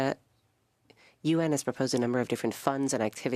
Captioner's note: speaking French